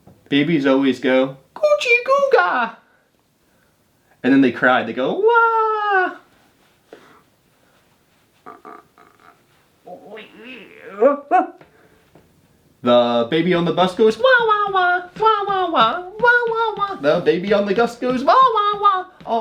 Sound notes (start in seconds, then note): 5.2 imitating baby crying; 9.9 imitating dog barking